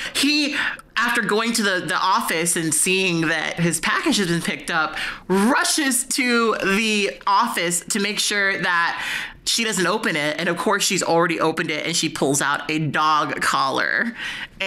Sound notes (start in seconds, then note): none